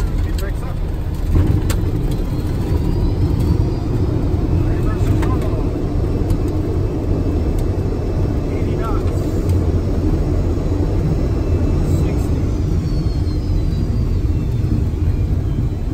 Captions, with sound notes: - Brakes up. - Reversing toggles. - 80 knots. (engine roaring) 60.